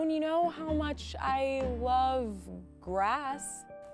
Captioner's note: none